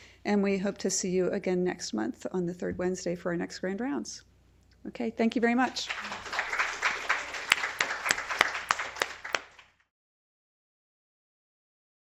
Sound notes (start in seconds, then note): 5.7 applause